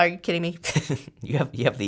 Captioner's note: laughs